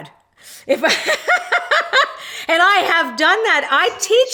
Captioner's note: laughs